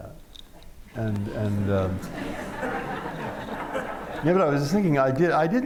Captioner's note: laughter